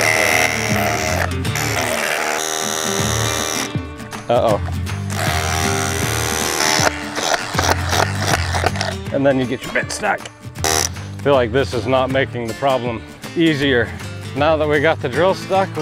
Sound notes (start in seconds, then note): 0.0 drilling; 7.0 heavy drilling